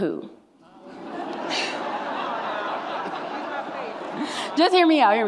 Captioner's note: audience laughs